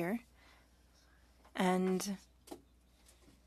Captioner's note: speaking French